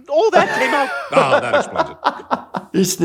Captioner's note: laughing